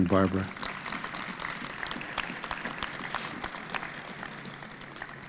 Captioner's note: audience applauding